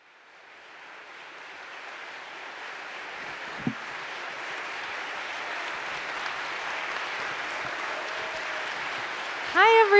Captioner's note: applause